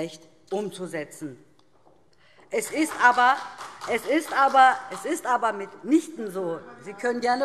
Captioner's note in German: Demonstrativer Beifall